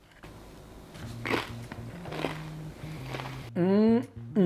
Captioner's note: crunching